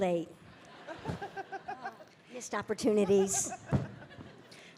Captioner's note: Bridget laughing